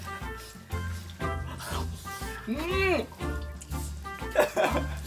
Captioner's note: laughs